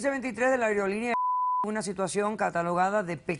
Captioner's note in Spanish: Bip